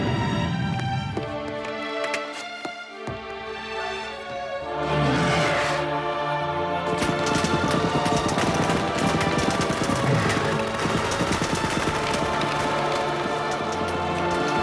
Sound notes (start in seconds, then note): 4.7 roars; 6.8 guns fire rapidly